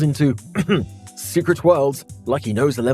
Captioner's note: ahem